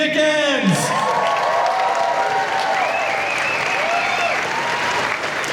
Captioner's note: cheering and applause